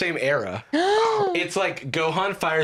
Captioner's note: gasps